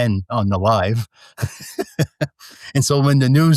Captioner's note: laughs